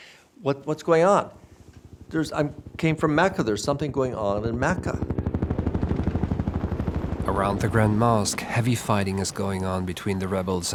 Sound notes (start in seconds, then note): 5.2 helicopter blades whirring